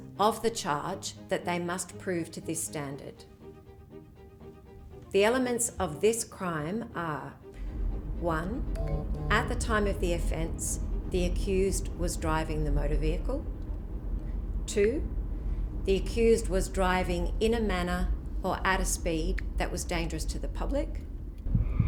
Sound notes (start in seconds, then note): 8.7 alert buzzing